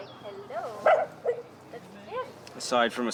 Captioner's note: dog barks